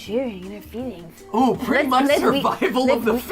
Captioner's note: Mat Pat laughs